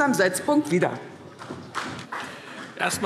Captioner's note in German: Beifall CDU und BÜNDNIS 90/DIE GRÜNEN